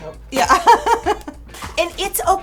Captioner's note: laughs